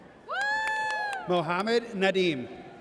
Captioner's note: audience cheers